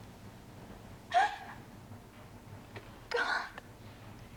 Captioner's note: Jessie crying